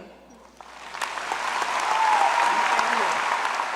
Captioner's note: applause